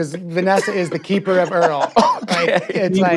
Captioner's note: laughs